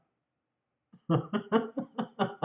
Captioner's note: laughter